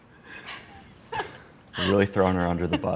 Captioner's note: laughing